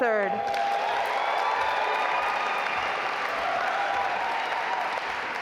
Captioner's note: audience applaud